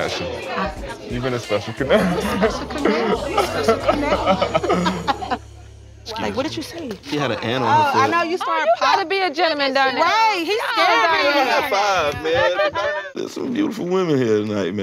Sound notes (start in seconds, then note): 3.6 laughter